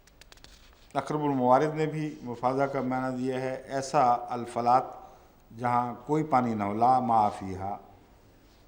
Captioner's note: Arabic